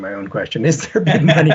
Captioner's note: laughs